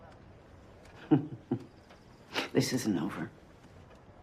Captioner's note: chuckles